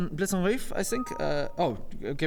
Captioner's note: bing-bong